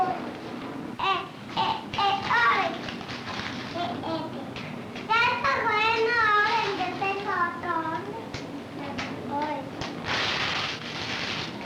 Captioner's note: Spanish speaking